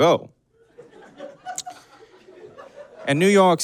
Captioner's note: scattered giggling